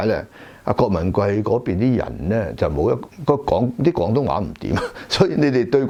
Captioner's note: dialect